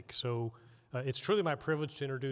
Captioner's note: none